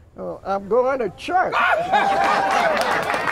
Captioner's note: applause